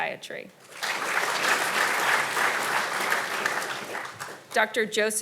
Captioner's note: audience applauding